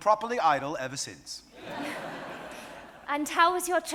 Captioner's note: audience laughing